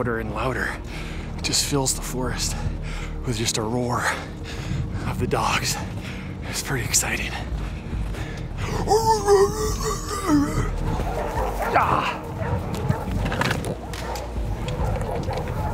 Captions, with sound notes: and louder just fills the forest with just a roar of the dogs it's pretty exciting [barking]